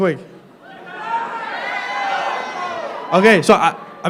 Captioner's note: crowd yelling